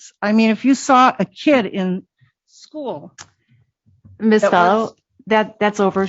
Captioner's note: none